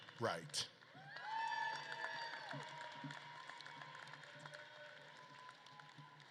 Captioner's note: audience claps and cheers